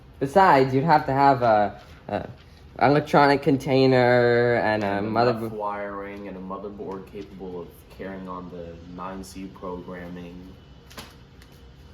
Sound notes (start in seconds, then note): none